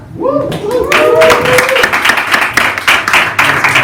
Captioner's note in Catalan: aplaudiment